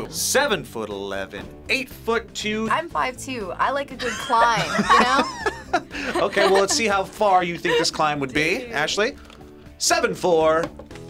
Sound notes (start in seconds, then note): 4.0 both laugh